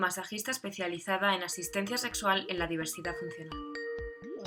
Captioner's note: Sonido llamada de Skype